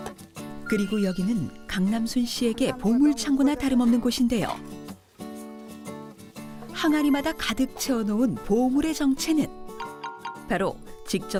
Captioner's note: voiceover